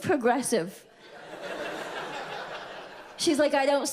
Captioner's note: audience laughs